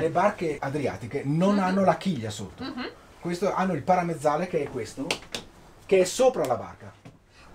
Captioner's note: italian is being spoken